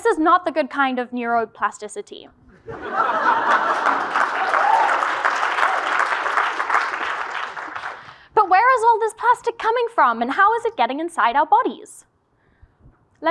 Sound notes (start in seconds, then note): 2.5 laugh; 3.4 applause